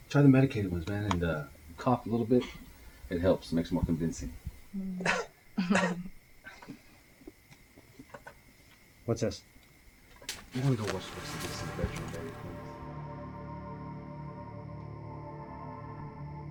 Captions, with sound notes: Try the medicated ones and cough a little bit, it helps, makes it more convincing. (coughing) - What's this? (suspenseful music) - Go watch the rest of this in the bedroom?